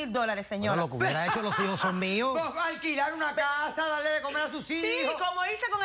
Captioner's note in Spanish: Risas